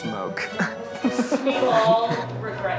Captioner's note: Zach laughing